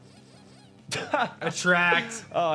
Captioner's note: laughs